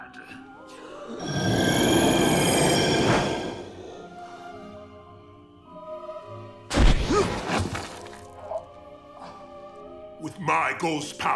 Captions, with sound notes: [grunting] [groaning] With my ghost powers